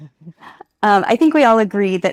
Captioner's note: participant laughs